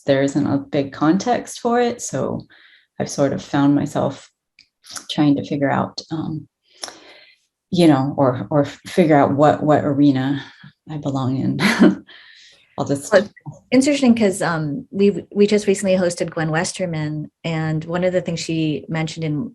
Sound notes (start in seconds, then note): 11.2 chuckles